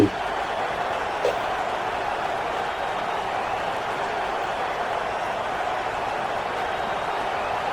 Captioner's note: crowd Noises